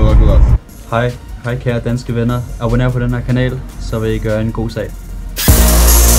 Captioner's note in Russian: говорит по-датски